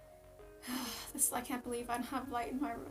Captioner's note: sighs